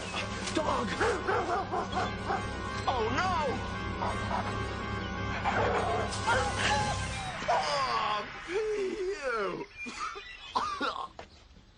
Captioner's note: dog barking; coughs, groans; coughs